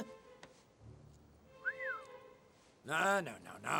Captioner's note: whistles